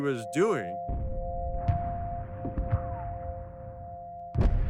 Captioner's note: bombs falling